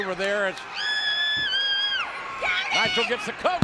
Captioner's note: screams